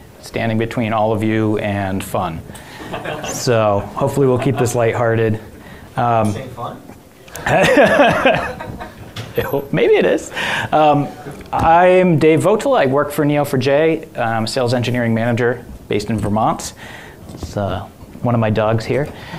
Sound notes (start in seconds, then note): 2.7 audience laughing; 7.3 laughs